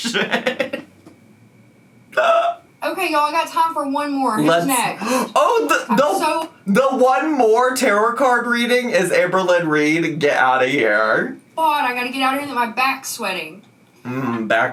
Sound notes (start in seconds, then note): 0.0 laughs; 4.9 gasps